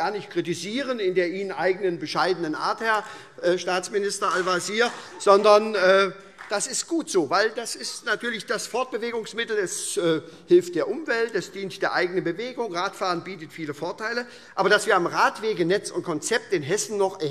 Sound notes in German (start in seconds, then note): 6.2 Beifall SPD